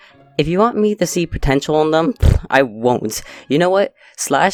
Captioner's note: blows raspberry